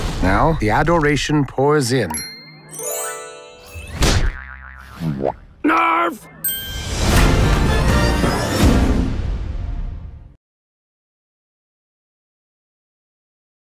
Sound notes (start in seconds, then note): 2.1 angelic music; 2.6 dings; 6.2 upbeat music